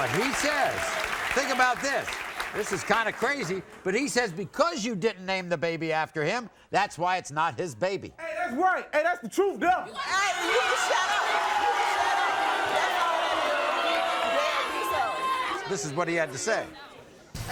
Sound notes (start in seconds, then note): 13.6 audience boos